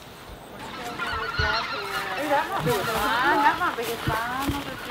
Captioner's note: women chatting